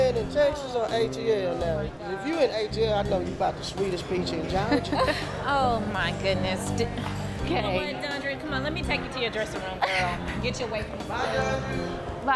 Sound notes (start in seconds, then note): 4.6 laughter